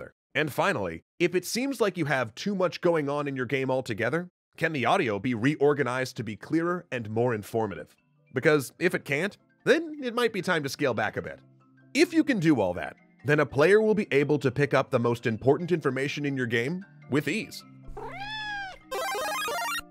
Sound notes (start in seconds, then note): 17.9 zoey meows